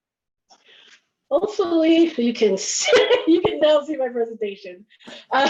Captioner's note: laughs